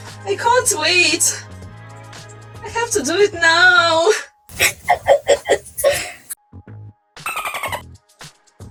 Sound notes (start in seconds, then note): 4.5 crying